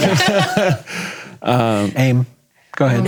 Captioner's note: laughing